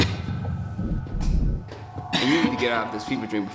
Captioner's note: coughing intensifies